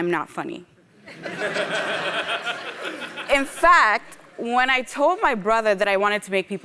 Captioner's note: laugh